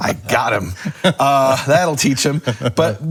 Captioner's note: laughing